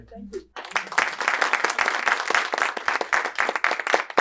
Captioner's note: audience clapping